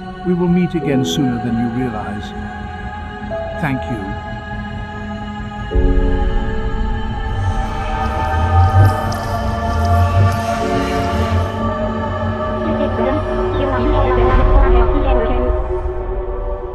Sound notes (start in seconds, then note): 7.8 traffic honking; 9.5 blinker sounds